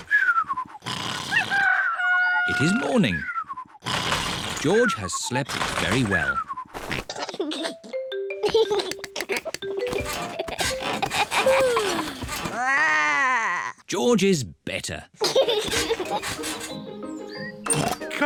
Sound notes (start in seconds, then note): 1.5 cockerel crows; 8.4 giggles; 12.1 growls; 12.4 yawns; 15.2 giggles